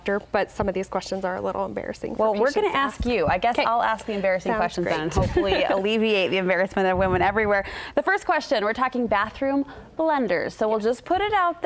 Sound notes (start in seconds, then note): 4.9 laughs